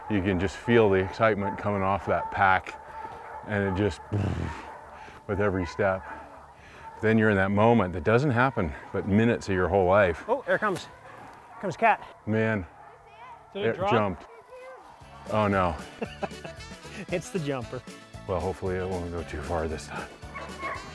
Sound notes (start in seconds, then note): 4.0 purring sound; 15.0 comedy music; 15.7 laughter